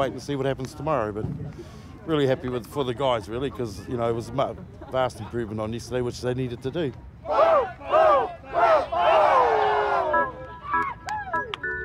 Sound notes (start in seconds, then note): 7.2 shouts, cheering